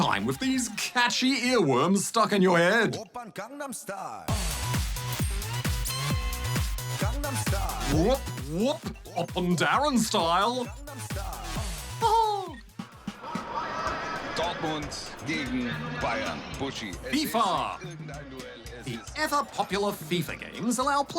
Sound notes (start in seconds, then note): 14.5 man speaks german